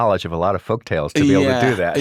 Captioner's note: laughs